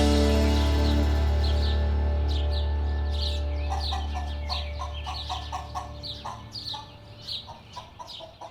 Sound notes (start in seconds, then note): 0.3 birds chirp; 3.6 chicken clucks